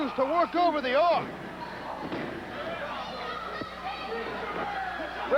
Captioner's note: crowd cheering